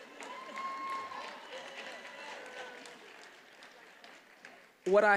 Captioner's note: attendees applauding and cheering